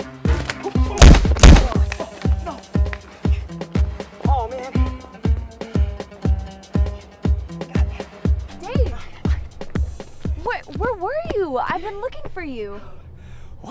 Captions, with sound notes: [THUD] [THUD] Aw man! Dave! Whe..where were you? I've been looking for you.